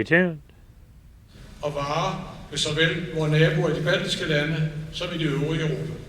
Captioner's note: Danish